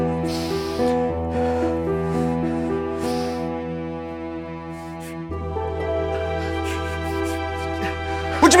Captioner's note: john breathing heavily